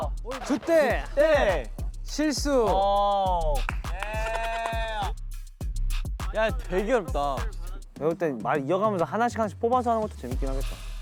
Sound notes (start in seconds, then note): 3.9 laughs